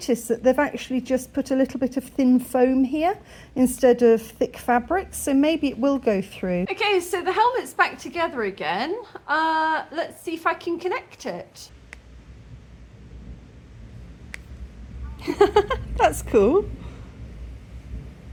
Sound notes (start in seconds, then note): 15.2 laughing